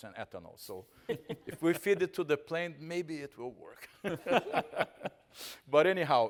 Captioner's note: laughing